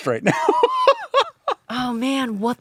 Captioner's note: laughing